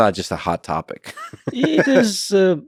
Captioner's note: Lex laughing